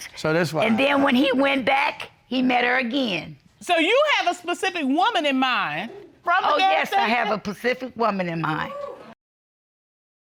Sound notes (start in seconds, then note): 8.4 audience hooting